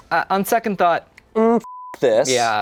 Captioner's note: beep